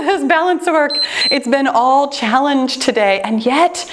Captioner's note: timer beeps